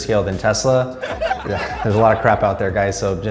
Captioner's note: audience laughs